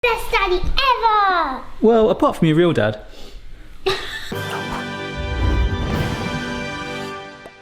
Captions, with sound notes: - Best daddy, ever! - Well, apart from your real dad. (woman snickers) (dramatic music)